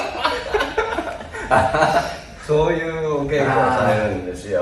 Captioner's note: laughs